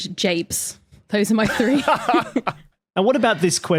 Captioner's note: laughs